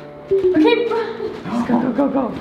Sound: door beeping; laughs

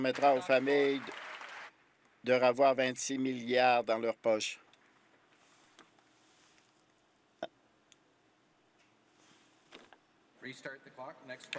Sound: applause

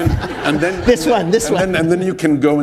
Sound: laughter

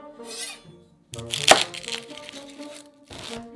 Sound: knife cutting

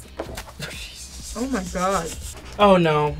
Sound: laughs

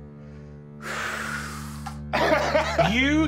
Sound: deep breath; laughing

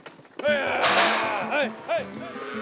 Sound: mooing

